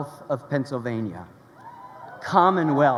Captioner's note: crowd cheering